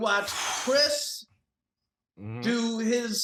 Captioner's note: mero exhales sharply